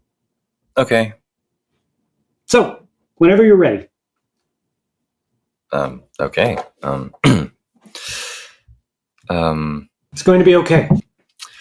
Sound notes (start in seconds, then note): 7.1 clears throat; 7.9 sharp inhale; 11.4 inhales, sighs